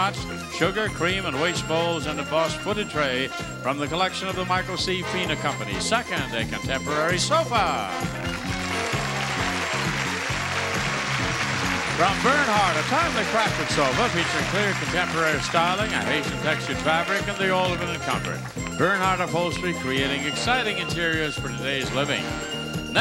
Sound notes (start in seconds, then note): 8.3 exciting music; 10.4 crowd cheering